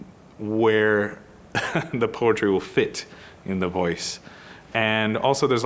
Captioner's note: chuckling